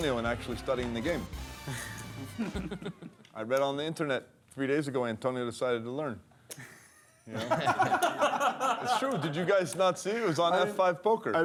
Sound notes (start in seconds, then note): 6.6 laughter